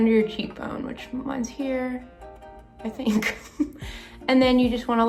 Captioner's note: laughs